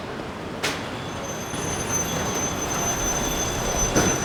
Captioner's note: brakes squeaking